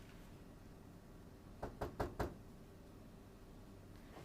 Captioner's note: door knocking